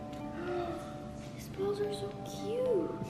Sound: child gasping

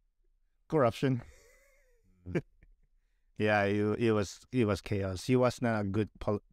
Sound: laughter

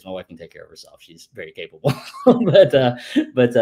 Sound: laughs

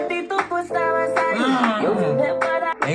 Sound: moans

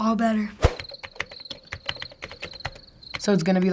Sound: crickets chirp; typing on keyboard

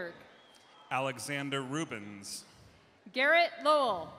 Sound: cheers and applause

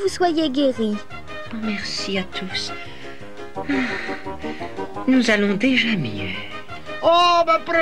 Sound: sighs

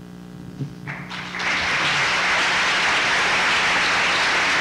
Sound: applause

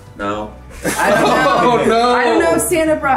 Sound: group laughs; laughs

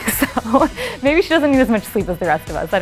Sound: laughing

